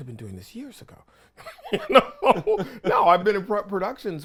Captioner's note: laughing